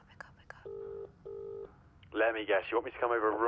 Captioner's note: phone line ringing